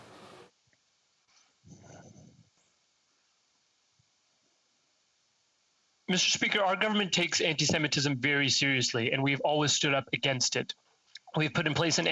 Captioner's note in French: voix de l'interprète